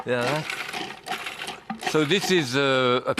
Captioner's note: food processor whirring